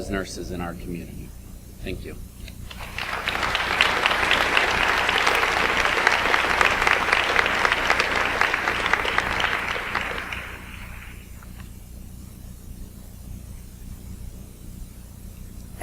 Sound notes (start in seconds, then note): 3.0 audience applauds